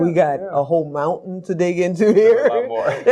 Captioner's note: laughs